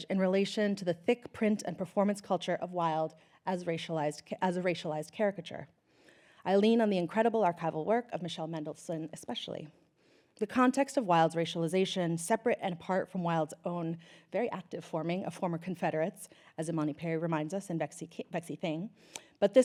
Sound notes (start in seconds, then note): none